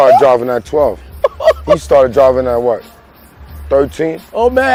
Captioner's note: laughing